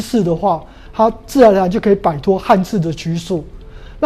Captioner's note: chinese words